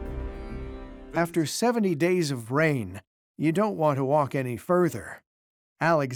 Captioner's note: in German